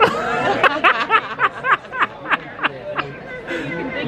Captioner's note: all laughing